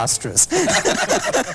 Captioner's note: laughing